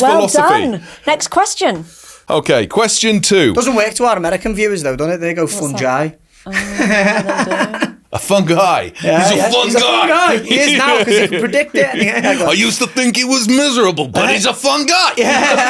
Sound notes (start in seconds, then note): 6.5 laughing